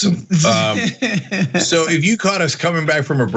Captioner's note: laugh